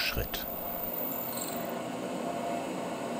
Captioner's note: squeaking, whirring